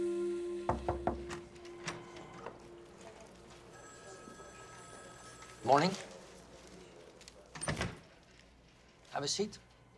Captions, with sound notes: (knock taps) (door opens) (phone rings in background) Morning. Have a seat.